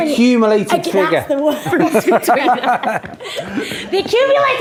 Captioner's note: laughs